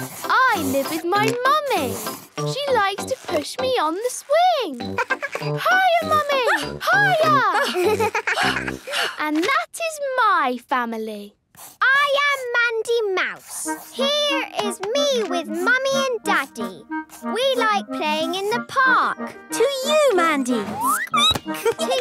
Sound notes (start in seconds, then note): 5.8 giggles; 7.5 panting